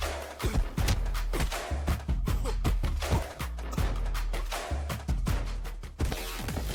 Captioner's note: stomping